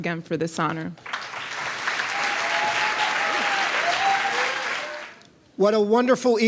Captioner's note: applause